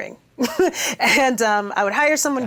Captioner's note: chuckles